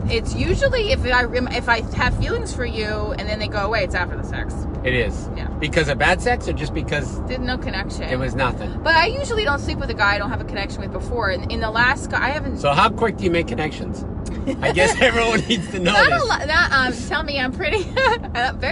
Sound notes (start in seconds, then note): 14.3 laughs; 17.8 chuckles